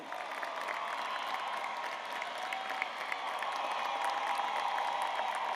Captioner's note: graduates applauding and cheering